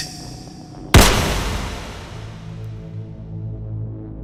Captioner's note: gunshot blasting